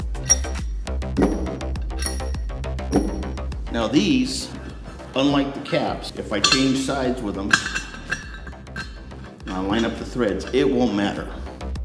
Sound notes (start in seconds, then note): 1.2 soft thuds; 6.4 adjuster nuts threading